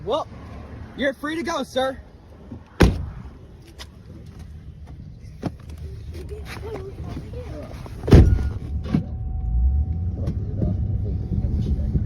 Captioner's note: door shuts then opens